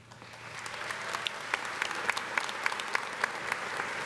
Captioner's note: audience applauding